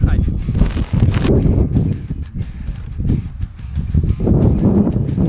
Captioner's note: wind howling